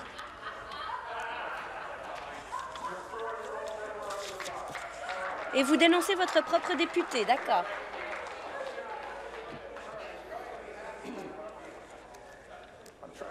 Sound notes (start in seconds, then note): 1.9 chuckles; 12.6 conversation din